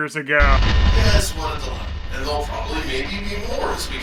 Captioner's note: low static